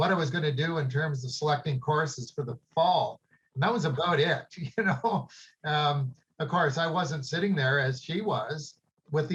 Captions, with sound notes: was going to go to an event with me, and what I was gonna do in terms of selecting courses for the fall. And that was about it, you know? [chuckles] Of course, I wasn't sitting there as she was